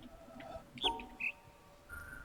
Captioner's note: bird chirps high-low